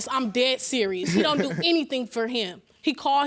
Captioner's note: laughing